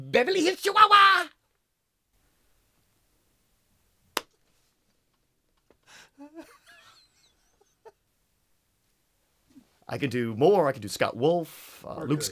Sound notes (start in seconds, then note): 6.1 Owen laughing